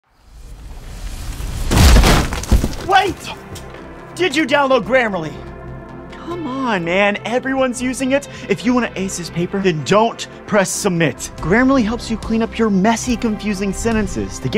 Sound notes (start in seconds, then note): 1.6 wall thudding